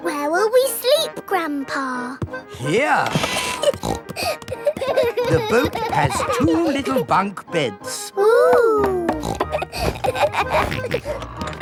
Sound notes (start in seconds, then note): 3.0 snorting; 4.1 kids giggling; 8.8 snorts, laughs